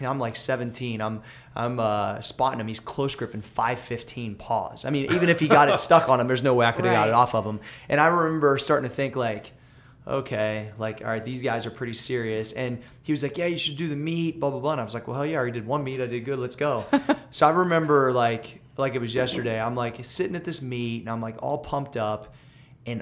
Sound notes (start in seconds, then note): 5.0 laughter; 16.8 laughter